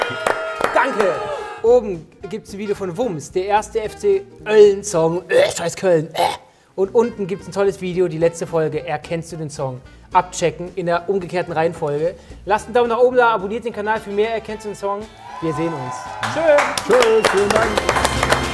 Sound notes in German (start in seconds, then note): 6.0 erbrechend